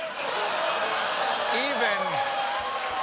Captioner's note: cheers and applause